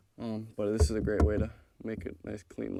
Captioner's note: fingers tapping